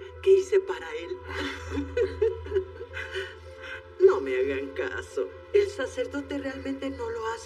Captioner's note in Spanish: Ríe